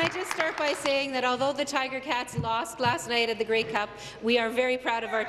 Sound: applause

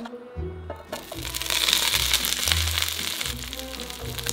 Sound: sizzling

